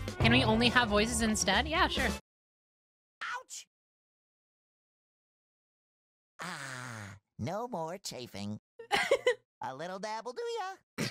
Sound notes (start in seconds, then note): 8.9 laugh